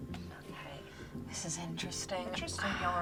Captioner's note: sighs